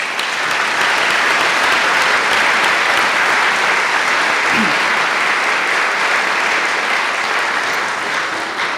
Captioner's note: applause